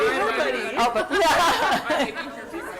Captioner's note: laughs